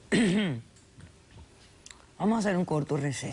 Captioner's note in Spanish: Carraspea